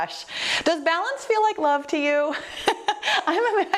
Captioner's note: laughing